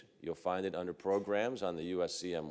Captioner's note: none